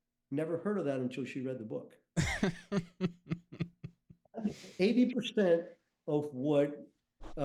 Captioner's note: chuckles